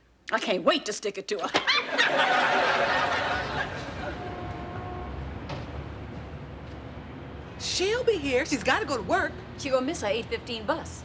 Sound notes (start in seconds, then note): 1.5 both laughing